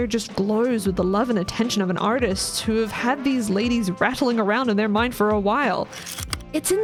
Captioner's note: projector slide click